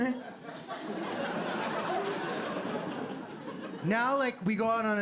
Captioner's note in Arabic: ضحك